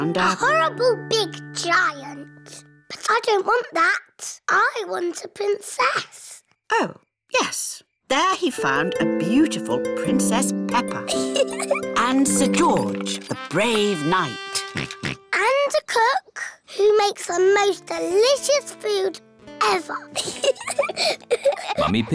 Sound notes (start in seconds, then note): 11.2 chuckles; 14.7 oinks; 20.1 both giggle